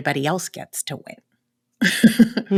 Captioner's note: laughter